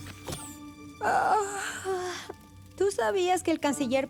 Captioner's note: yawn